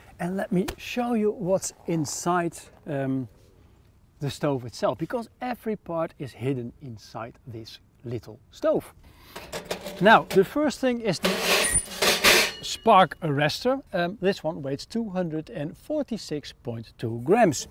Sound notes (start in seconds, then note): 9.4 stove door clinking; 11.2 metals clinking